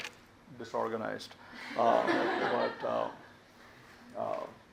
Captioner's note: audience laughs